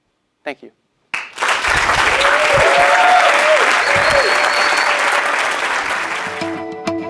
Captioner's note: applause